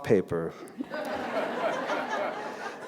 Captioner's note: laughter